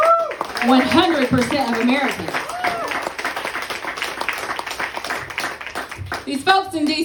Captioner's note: applause